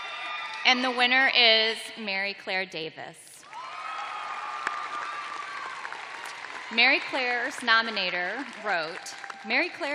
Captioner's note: cheers and applause